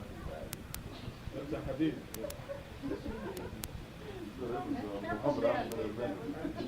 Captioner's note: speaking in foreign language; audience laughing